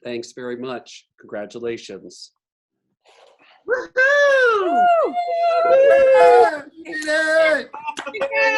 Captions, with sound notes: Thanks very much. Congratulations. [attendees cheering]